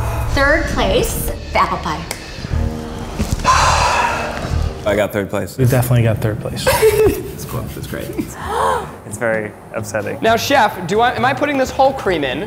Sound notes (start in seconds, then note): 3.2 sighing; 6.6 laughing; 8.3 gasping